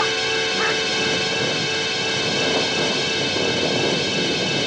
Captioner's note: thunder rumbling